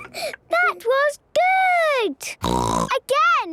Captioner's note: snorting